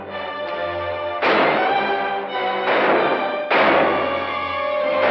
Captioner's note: tense music; gunfire